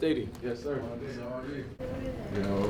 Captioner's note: group chattering